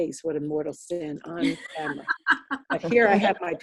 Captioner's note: laughing